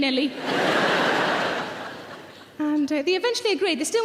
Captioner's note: audience laughs